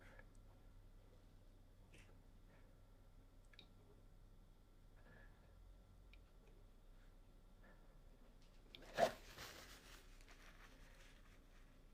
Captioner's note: silence